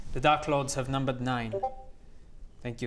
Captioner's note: discord ping